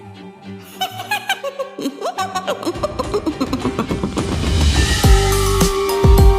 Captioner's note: Nanael giggles mischievously